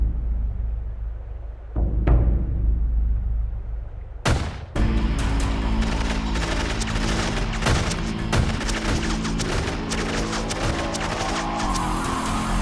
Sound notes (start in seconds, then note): 4.2 gunshot; 5.2 rapid gunfire